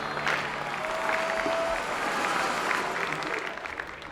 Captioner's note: crowd groaning